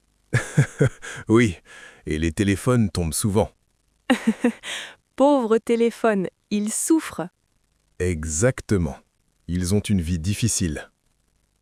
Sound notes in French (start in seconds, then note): 0.3 rire; 4.1 rire